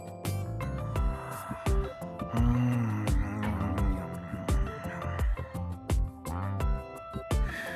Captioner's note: snore